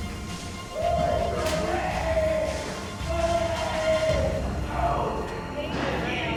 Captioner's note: inmate yelling